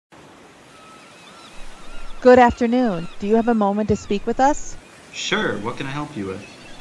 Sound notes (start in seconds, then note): 0.1 seagulls and waves in background; 0.6 seagulls; 1.5 waves crashing